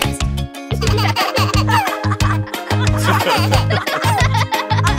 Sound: chuckling

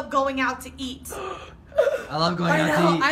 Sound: gasp

